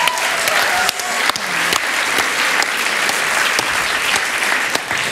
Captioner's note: applause